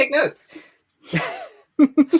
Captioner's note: laughs